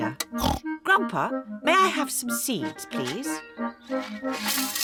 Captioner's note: oinks